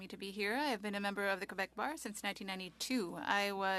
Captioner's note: speaking French